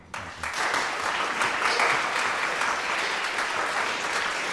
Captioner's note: audience applauds